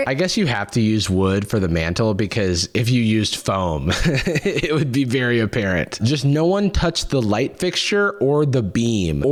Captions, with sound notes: I guess you have to use wood for the mantle, because if you used foam... (laughs) it would be very apparent. Just no one touch the light fixture or the beam,